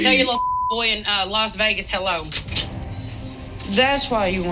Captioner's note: beep